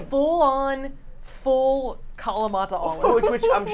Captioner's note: laughs